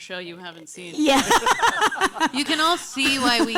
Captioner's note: laughing